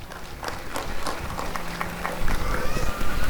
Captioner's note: applause and cheering